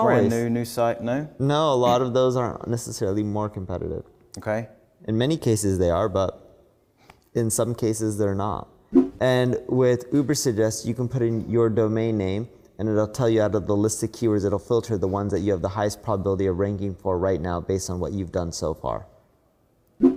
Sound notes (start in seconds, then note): 8.9 graphics whooshing